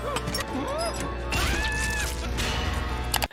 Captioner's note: Nutty grunting; Nutty screams